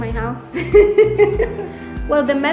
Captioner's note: laughs